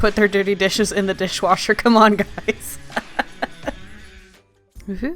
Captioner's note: laughs